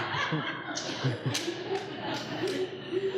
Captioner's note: laughing